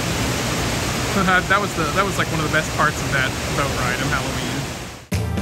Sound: laughs

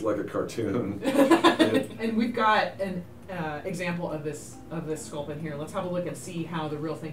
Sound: laughing

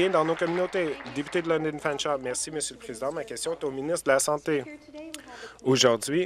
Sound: applause

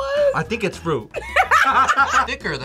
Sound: both laugh

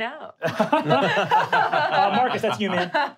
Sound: laughing

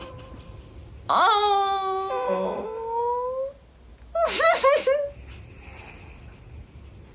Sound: whimpers

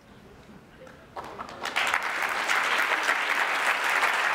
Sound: applause

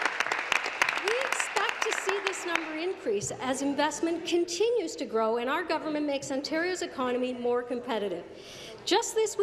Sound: applause

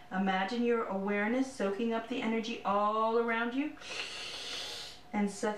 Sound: sucking Sounds

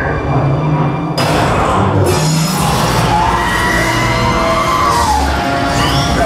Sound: scared Droid Noises; cutting Noises

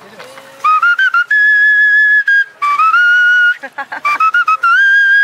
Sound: speaking in foreign language; vendor whistling; laughing

